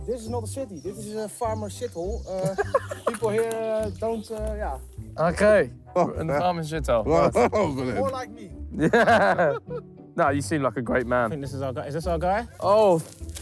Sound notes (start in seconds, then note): 8.7 laughing; 8.7 laughs